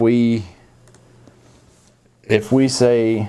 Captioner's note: mouse clicking